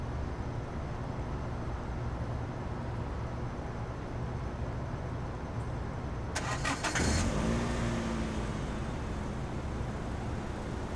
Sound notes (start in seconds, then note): 6.3 engine starts